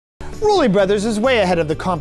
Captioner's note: voiceover